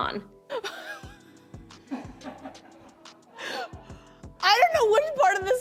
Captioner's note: laughter